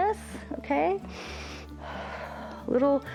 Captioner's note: inhales and exhales